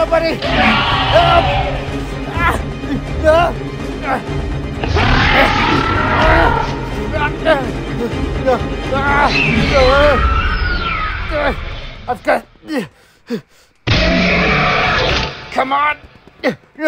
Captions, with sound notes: Somebody, help! Ah! (man grunting) God Damn! I've got... (Hermes roaring) Come on.